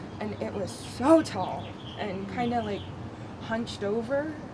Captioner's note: none